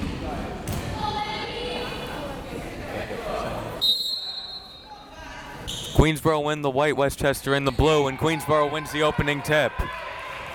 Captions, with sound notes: (crowd members shouting) (whistle tweeting) Queensborough in the white, Westchester in the blue, and Queensborough wins the opening tip.